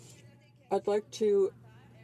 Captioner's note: speaking French